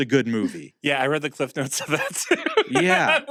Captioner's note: laughs